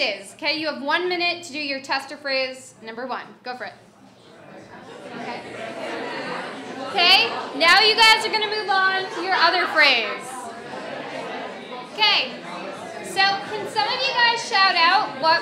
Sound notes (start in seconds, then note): 4.3 audience chatters